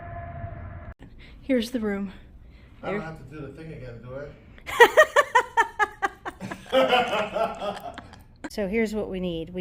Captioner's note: laughter